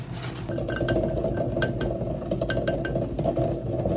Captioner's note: eggs are bubbling away